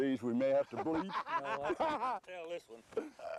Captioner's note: laughter